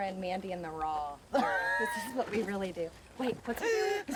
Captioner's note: laughs